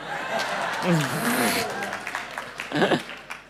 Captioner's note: applause